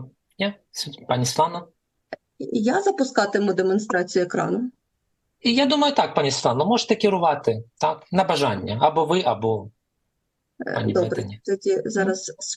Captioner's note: foreign language